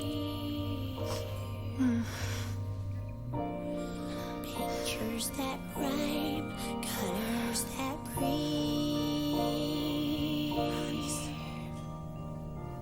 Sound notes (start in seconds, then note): 1.7 moans